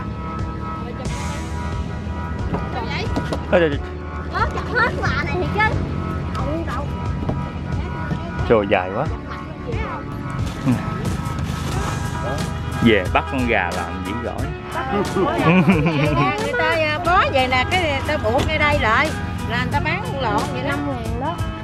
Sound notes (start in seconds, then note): 14.8 laugh